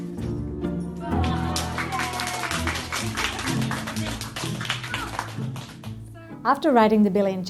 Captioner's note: cheers and clapping